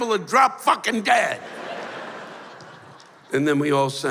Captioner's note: laughter